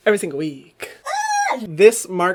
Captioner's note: squealing